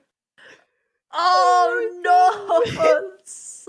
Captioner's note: groans no in defeat